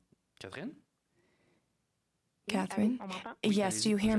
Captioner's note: speaking French